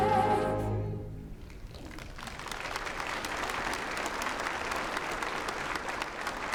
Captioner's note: applause